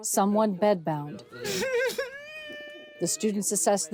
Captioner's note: patient sobs